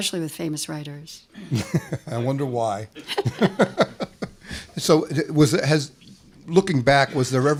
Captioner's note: laughter